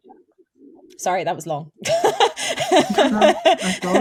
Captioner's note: laughs